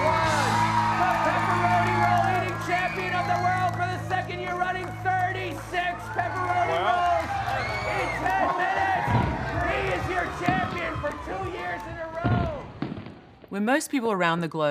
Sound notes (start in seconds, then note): 3.7 audience cheering